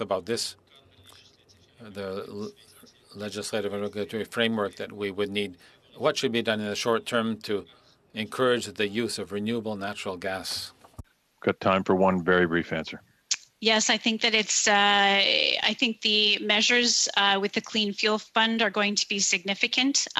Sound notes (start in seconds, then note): 2.6 speaking French